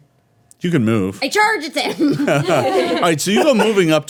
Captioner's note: laughing